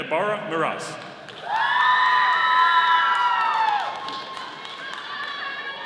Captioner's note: audience applauding